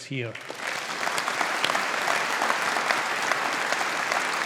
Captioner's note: audience applauding